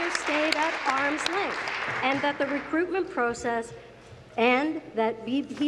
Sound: applause

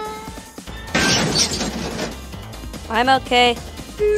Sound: crash!

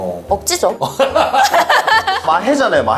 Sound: hahaha

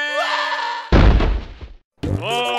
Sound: thud, ded

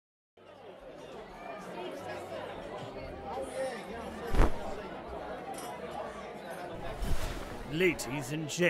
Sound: audience Chatter

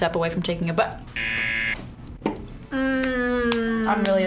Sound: buzzer rings

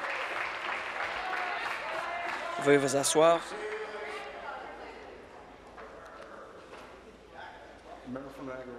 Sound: applause

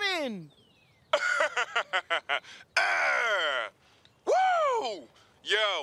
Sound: laughing and grunts

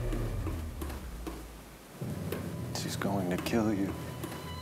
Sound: blood dripping

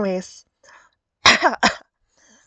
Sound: cough cough

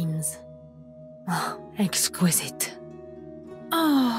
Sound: sighs

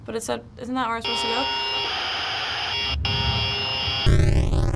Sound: in game: buzzing static

